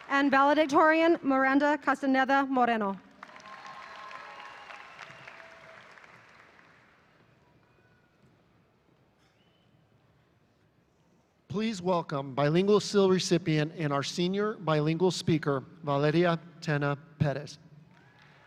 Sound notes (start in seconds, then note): 3.2 audience cheering; 18.0 audience applauding